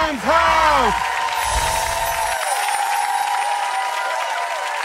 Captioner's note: audience cheering